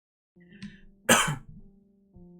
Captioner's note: very British Cough